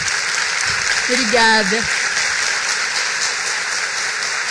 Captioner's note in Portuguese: applause